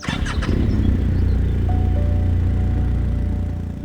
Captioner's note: engine rumbling